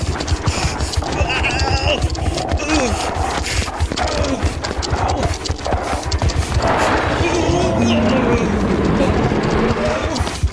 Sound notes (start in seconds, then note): 4.5 scorpion scurries; 7.8 Papi grunts